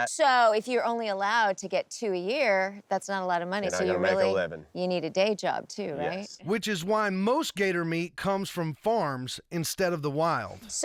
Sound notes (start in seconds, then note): none